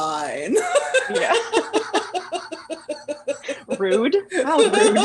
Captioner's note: laughter